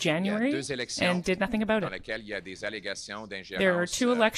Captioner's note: speaking French